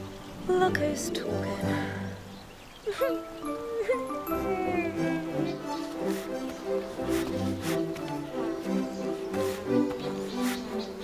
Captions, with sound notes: - Look who's talking. (cries) (bees buzz)